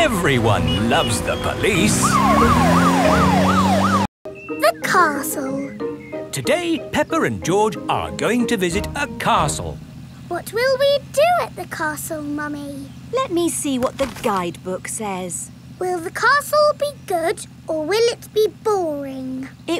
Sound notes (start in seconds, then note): 2.6 siren wailing